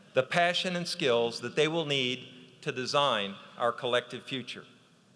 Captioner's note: none